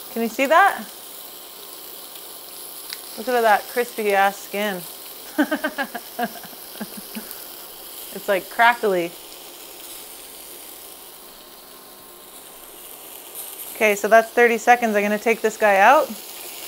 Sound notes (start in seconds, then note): 5.3 laughs; 9.5 fish sizzling